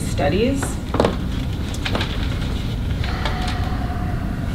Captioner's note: papers rustle